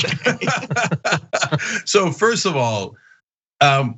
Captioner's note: laugh